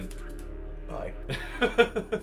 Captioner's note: laughs